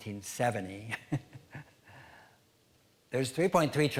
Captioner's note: chuckling